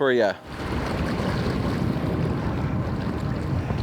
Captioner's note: water treading